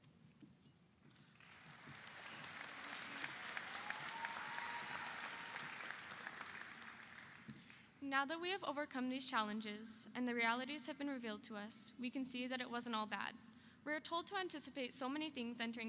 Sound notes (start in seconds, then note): 1.2 audience applauds; 1.4 audience cheers